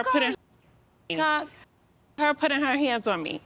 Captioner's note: muted